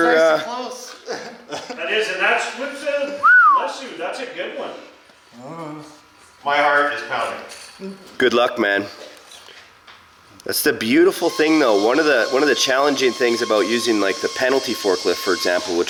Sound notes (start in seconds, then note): 3.2 whistles